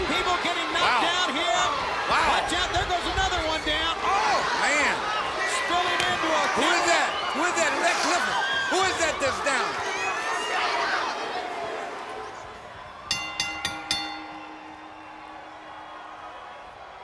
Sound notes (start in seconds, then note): 13.1 bell ringing; 14.2 crowd noise